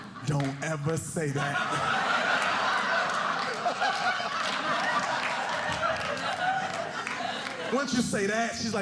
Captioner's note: audience laughing